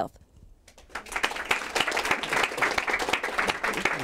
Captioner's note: applause